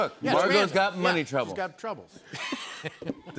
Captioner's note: laughter